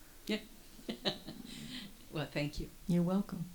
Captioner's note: laughs